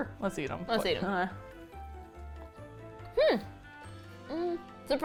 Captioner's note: with hesitation